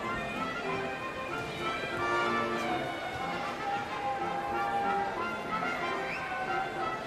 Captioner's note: tranquil orchestra music; hushed chattering and occasional celebratory shouts